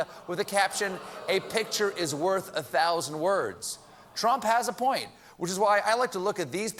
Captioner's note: audience reacts